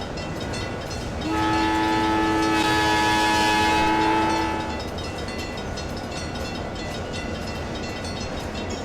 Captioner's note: CNW Cab Car horn